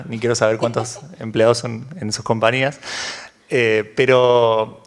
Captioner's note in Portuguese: risos